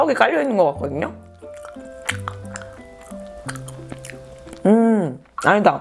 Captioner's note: chewing on something chewy like rice cake